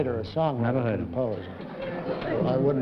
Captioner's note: laughter